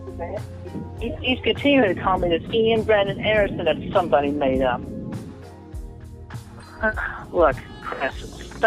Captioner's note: sigh